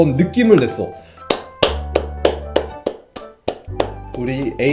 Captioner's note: claps